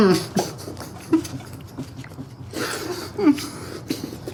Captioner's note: Miles whimpers